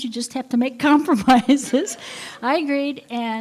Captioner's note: laughter